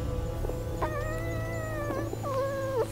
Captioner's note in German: Fuchs winselt